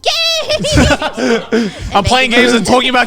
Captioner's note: everyone laughing